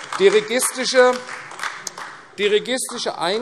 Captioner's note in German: Beifall AfD